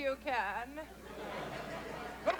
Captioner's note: laughter